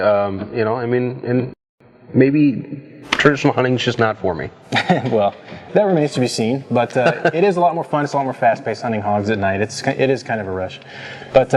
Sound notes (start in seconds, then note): 6.7 laughs